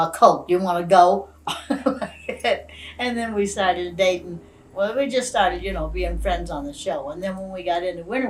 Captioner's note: laughs